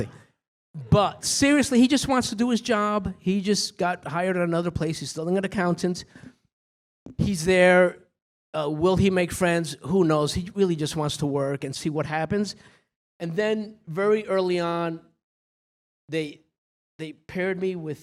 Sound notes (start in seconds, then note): none